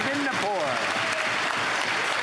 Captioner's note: applause